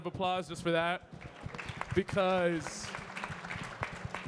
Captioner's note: everyone clapping